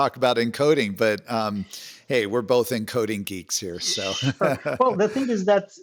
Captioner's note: laughs